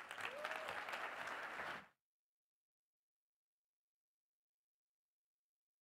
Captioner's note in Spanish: aplausos